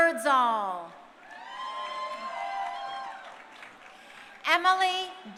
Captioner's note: crowd cheering